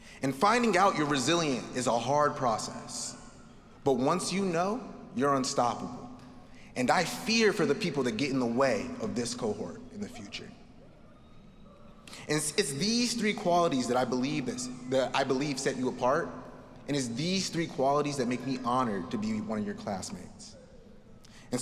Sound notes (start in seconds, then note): none